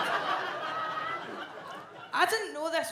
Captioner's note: audience laughs